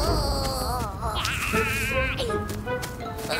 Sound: screaming

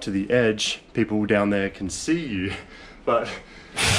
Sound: laughs

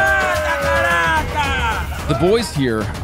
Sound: locals shouting

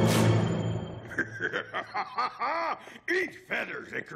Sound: evil laughter; man laughing

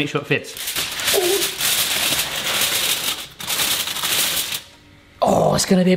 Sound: aluminium foil crackling

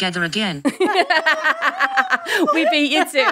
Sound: all laughing

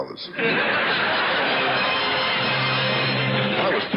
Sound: audience laughs; orchestra riffs

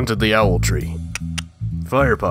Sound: clicks tongue

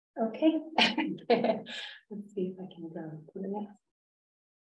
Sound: laughs

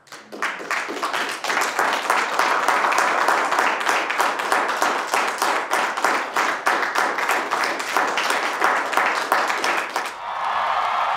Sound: applause

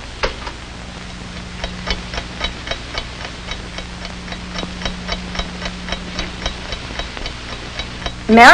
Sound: clock ticking

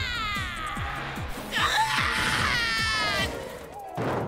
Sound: screams

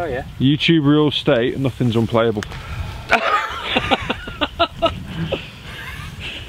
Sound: laughs

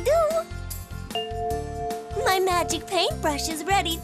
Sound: bell chimes

